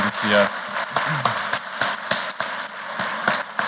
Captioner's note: applause